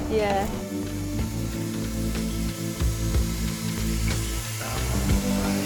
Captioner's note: grinder drones; light-hearted music